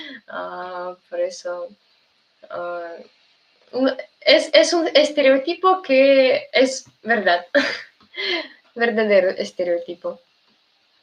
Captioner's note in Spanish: risas